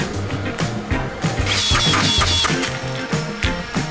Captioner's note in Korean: 리벳건 소리